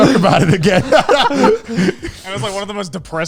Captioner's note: laughing loudly